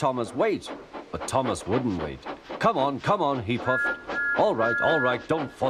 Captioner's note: Thomas whistles